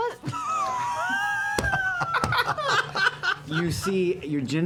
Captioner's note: laughter